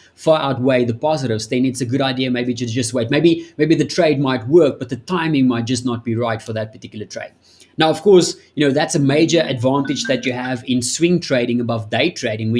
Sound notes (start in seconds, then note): 9.8 beeping sound